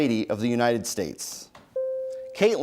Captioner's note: bell rings